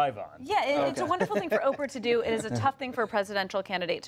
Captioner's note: laughter